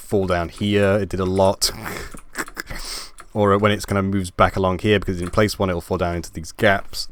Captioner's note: laugh